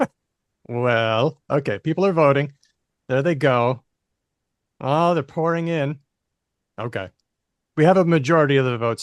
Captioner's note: laughs